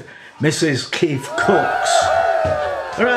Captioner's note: ecstatic cheering